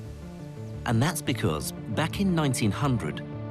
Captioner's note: voiceover